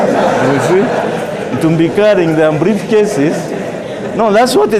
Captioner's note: laugher